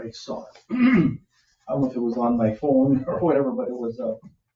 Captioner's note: clears throat